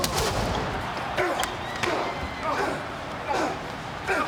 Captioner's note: body thuds; punches thuds